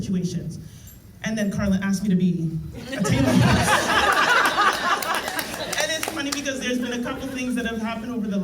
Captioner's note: laughter